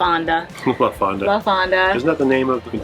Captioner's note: laughs